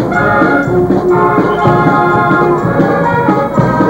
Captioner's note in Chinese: 鳥叫聲